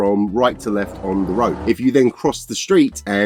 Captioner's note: sound of car driving past